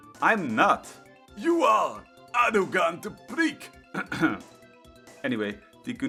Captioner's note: clears throat